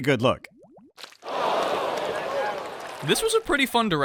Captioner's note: audience gasps